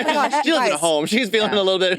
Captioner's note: participants laughing